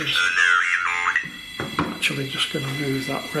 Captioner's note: robot voice speaking